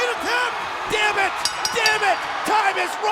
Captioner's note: bell rings